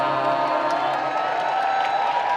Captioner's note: crowd applause